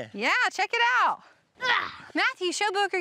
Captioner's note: grunts